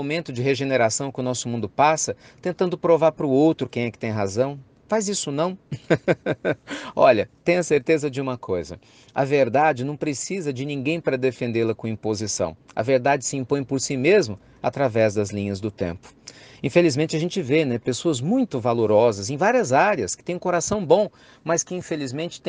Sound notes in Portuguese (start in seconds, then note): 5.7 risos